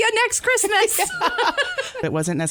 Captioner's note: laughter